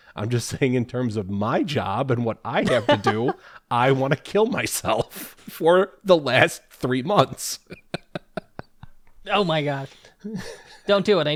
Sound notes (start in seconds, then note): 7.5 laugh